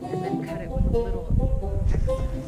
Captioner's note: women murmuring; upbeat music